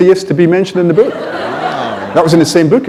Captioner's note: laughter